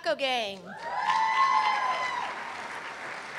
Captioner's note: applause